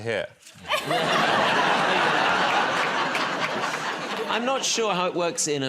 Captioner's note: laughter